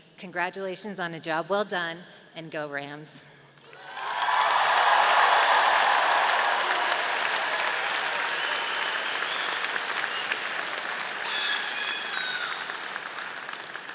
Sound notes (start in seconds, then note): 3.8 audience applauding